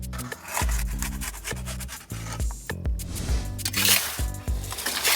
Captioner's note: paddle scraping on oven